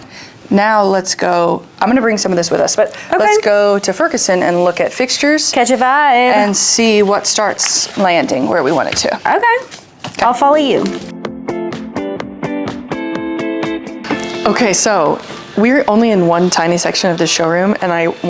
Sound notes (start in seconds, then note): 8.6 sing-song